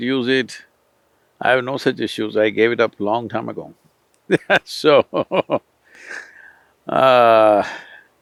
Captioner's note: laughs